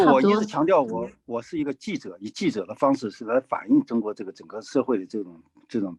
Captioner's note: speaking in foreign language